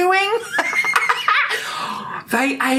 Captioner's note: laughs